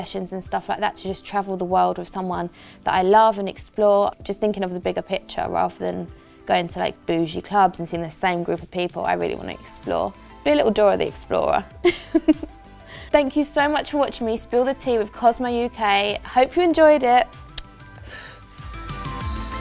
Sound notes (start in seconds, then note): 11.8 chuckles; 17.4 kisses; 18.4 upbeat music